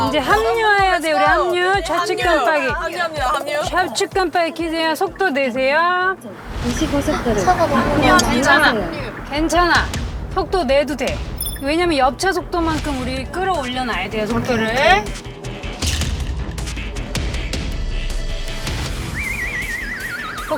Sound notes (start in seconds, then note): 6.6 swoosh